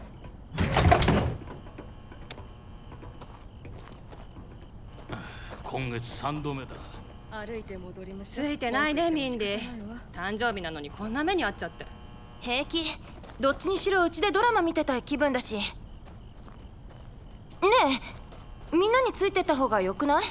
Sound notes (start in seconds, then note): 0.3 door clanks; 5.1 sighs